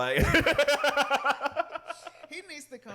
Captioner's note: laughs